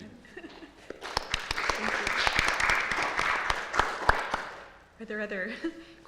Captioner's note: applause